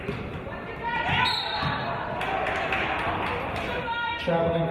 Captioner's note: referee's whistle